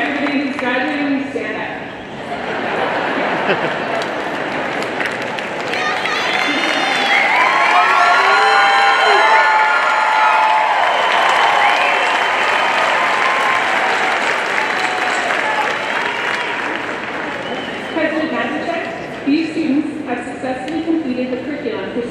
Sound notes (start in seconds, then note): 2.1 audience laughing; 7.2 audience cheering and applauding